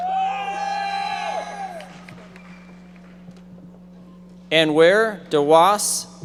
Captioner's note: audience members shouting